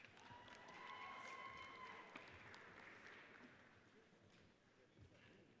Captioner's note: audience cheers and applauds